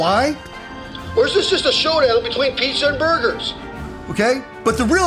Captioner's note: radio